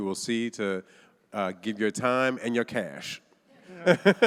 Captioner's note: laughs; audience laughing